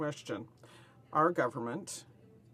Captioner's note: speaking French